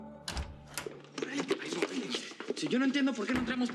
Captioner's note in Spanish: ruido al entrar